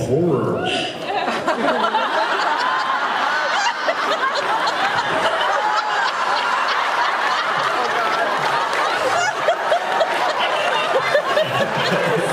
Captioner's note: laughs